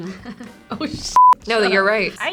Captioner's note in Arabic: زمارة